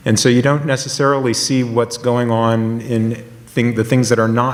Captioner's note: none